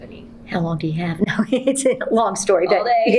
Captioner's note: laughs